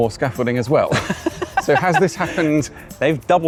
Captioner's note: laughs